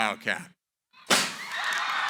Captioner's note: fireworks; cheering, applause